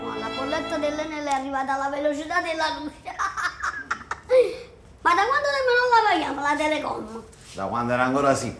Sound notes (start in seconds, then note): 3.1 laughing